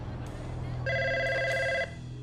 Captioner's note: phone ringing